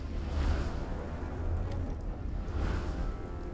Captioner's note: fire crackling; dramatic music